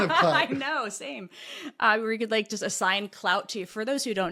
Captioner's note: laugh